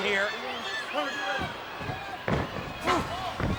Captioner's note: crowd yelling